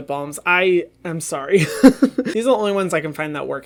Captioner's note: laughing